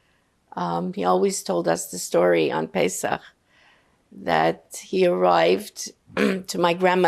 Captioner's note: clears throat